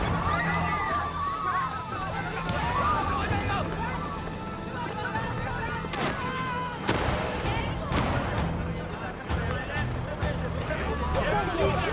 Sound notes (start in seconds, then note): 0.0 people screaming; 0.4 gunshots firing; 8.3 gunshots firing